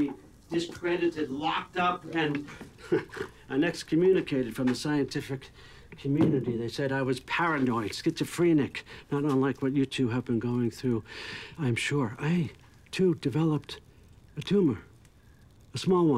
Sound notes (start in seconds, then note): 2.4 chuckles